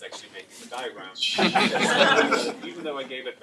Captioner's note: laughter